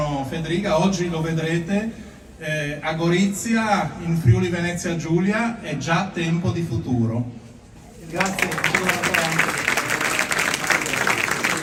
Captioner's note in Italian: Applauso